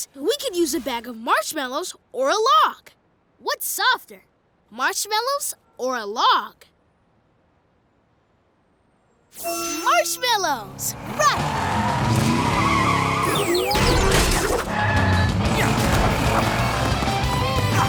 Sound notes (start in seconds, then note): 10.7 tires skidding